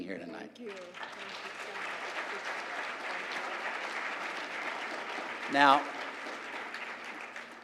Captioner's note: applause